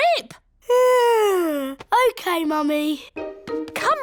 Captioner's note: yawns